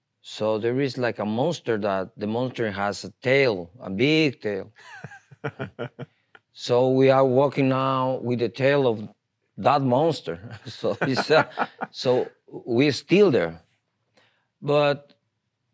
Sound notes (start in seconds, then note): 4.8 laughs; 10.4 laughs